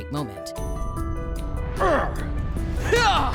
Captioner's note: grunting